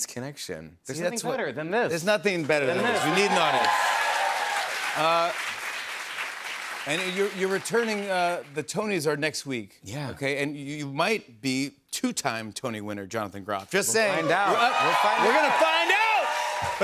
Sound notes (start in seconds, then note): 4.5 cheers and applause